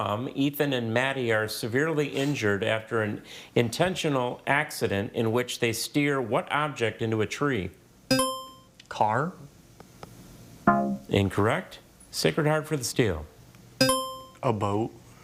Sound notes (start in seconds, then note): 8.2 buzzer chimes; 10.7 scoreboard buzzes; 13.8 buzzer chimes